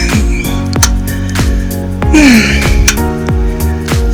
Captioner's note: moaning